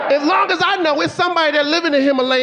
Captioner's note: audience laughing